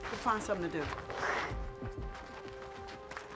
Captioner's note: hisses